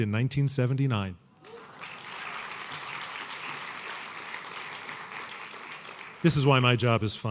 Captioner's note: applause